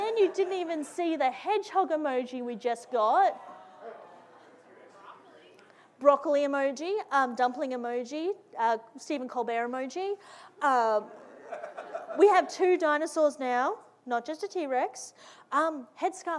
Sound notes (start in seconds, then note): 11.2 audience laughing